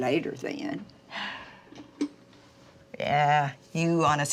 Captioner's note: Dory exhales